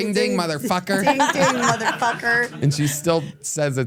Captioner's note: everyone laughs